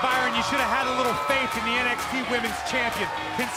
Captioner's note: cheers & applause